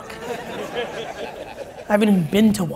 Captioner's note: audience laughs